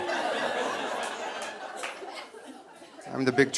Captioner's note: audience laughing